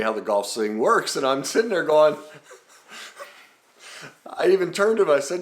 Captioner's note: laughing